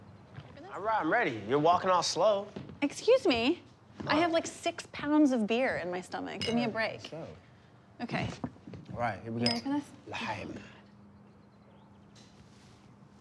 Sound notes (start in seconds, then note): 6.4 glass clink